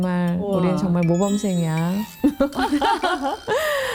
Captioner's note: laugh